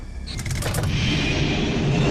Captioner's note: machine beeping; mechanical clanking; jet engine whirring